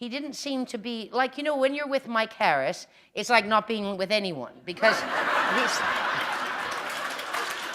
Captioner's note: laughter